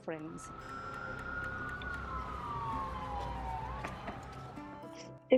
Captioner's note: ambulance sirens